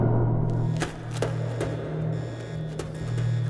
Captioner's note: alarm buzzing